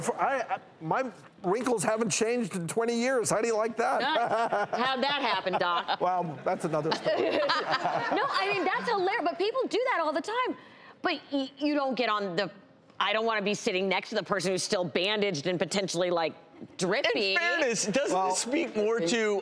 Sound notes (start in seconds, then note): 4.1 laughs; 6.5 audience laughs